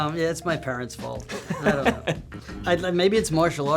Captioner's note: laughs